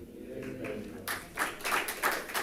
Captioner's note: attendees chattering